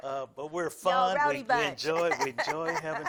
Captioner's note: laughs